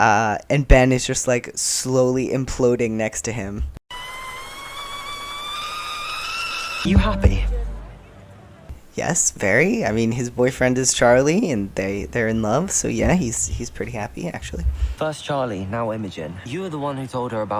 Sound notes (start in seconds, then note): 3.9 tea kettle whistling